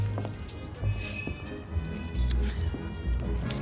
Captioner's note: door bell jingles